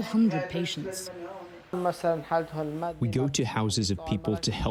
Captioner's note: through translator